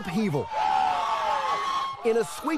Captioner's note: crowd yelling